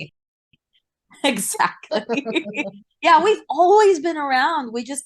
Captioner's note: laughs